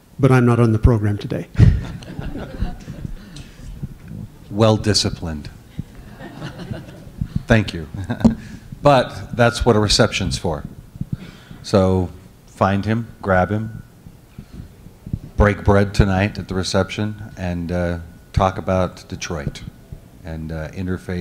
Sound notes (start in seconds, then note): 1.6 laughter; 6.0 laughter